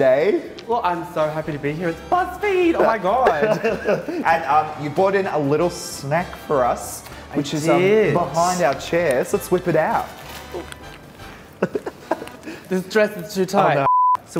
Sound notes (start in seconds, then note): 2.6 both laugh; 11.4 laughs